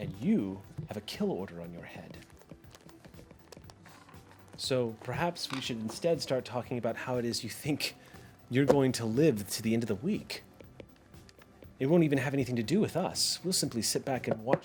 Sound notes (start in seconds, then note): none